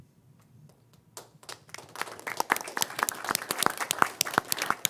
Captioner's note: crowd applauding